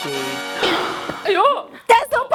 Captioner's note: gasp